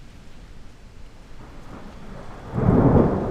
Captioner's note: rain patters; thunder rumbles; thunder crashes